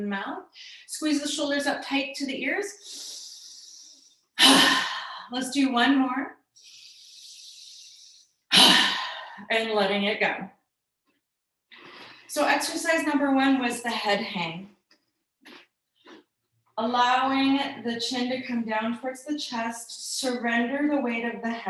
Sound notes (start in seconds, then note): 4.6 inhales, exhales slowly; 8.6 inhales, exhales slowly